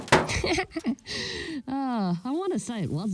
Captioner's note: laughing